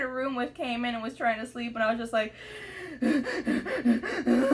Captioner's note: crying